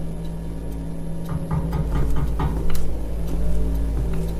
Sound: person knocks again

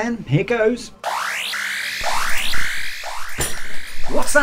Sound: emergency siren sounds

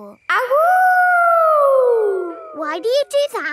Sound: howling

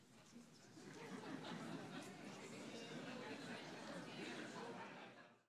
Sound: audience faintly chatting

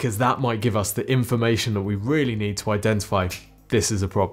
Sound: snaps finger

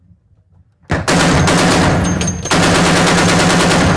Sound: gunshots

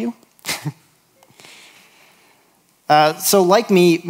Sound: chuckles

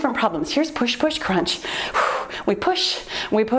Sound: exhales loudly

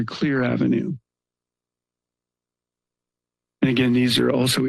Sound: pause

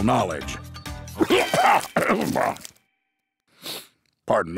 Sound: coughs

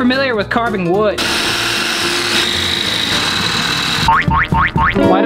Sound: drill buzzes; croaky beep

